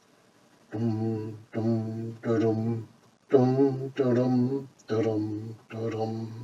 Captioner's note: hums despondent music